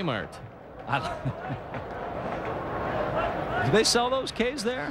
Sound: caray chuckles

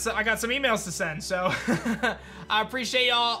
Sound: chuckles

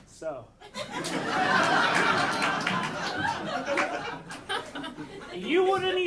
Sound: audience laughing

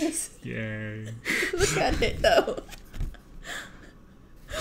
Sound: laughs

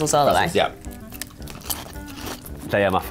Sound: both munching

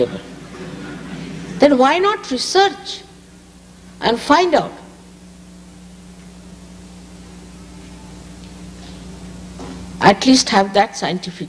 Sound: laughter

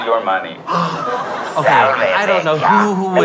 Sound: gasps

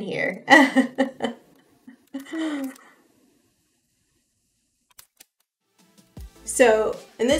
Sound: laughs

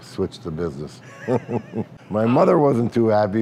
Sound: laughter

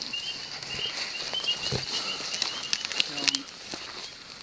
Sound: device beeping

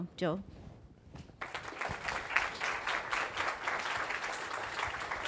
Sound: applause

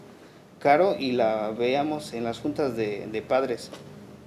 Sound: speaking Spanish

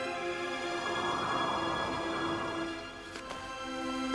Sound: wind blowing

